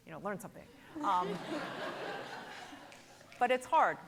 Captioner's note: laughs